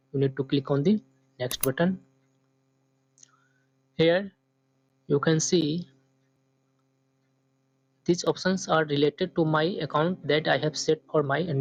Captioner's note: click